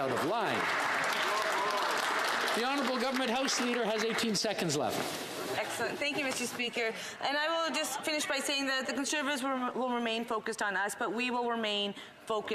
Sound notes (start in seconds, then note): 4.8 some Applause